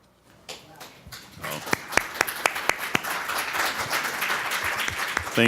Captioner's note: applause